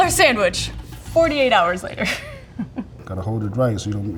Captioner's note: chuckles